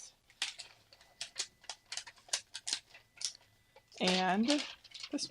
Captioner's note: sheet cracking